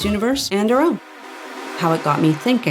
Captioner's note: wiggly swoosh